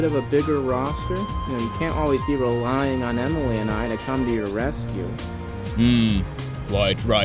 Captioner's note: laugh